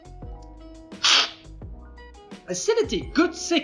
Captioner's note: slurping